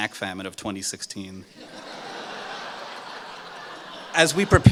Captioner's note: laughter